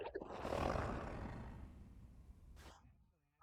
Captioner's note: Kaufmo growls